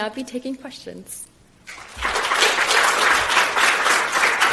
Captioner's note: applause